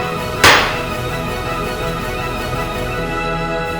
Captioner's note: energetic classical music; hammer banging